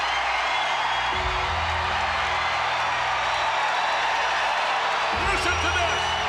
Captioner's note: crowd cheers; bell tolls